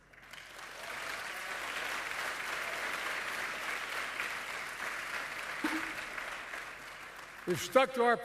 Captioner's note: applause